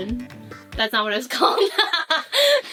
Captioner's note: laughs